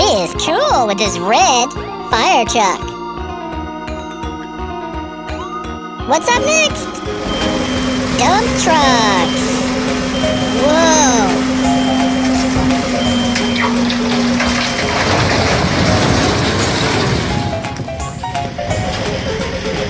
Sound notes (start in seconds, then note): 12.0 beeping; 12.2 crashing